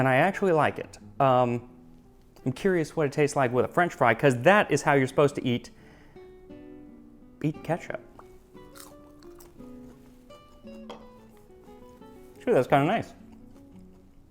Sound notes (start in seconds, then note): 8.6 Crunch